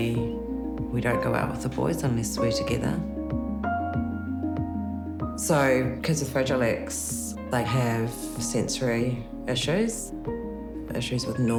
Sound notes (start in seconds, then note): none